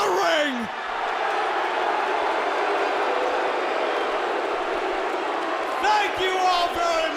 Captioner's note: crowd cheering